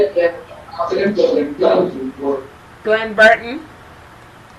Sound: people chattering

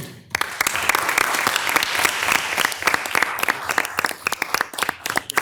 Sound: audience applauding

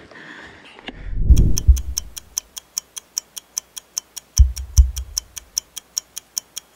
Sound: breathing heavily; heartbeat; clock ticking

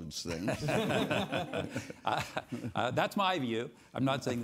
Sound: all laughing

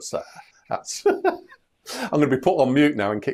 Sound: laughs

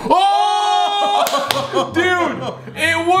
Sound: yelling and cheering

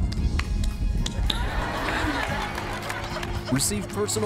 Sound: hands clapping; laughter

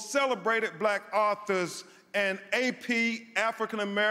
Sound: none

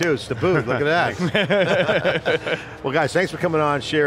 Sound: everyone laughing

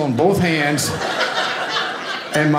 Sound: audience laughing

